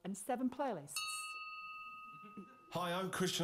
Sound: bell dings

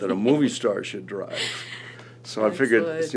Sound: laughs

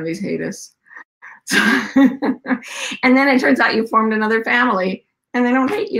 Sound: laughs

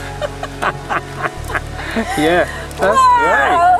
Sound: laugh together

